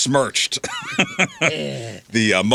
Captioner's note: laughing